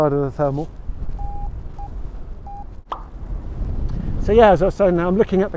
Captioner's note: Vario beeps